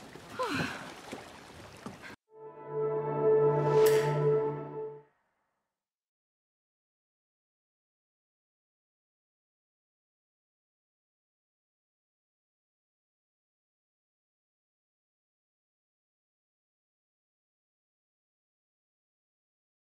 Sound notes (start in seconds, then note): 0.0 waves splash; 4.2 click